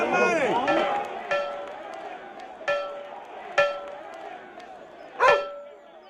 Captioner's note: bell ringing